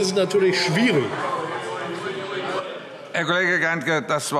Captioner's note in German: Lebhafte Zurufe